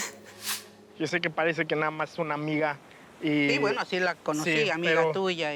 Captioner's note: speaking Spanish